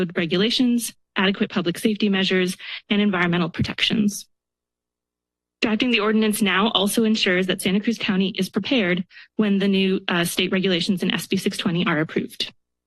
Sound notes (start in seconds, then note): 4.4 pause